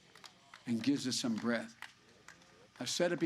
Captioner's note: applause